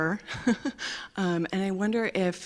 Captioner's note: laughs